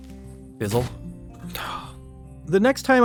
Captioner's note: sigh